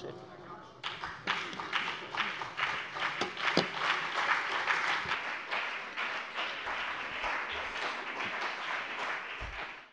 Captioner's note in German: Beifall BÜNDNIS 90/DIE GRÜNEN und CDU